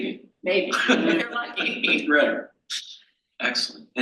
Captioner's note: panel laughs